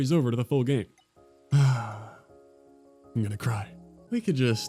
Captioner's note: sigh